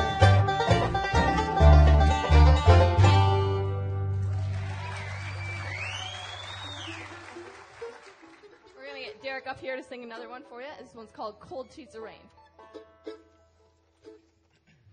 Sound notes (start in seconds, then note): 8.4 applause; 8.4 cheering